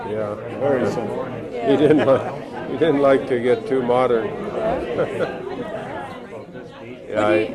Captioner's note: laughs; laughs